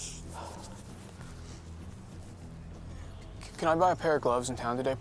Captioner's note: blows breath